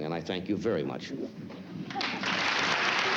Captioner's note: applause